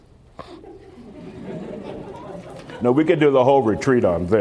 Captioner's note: laughter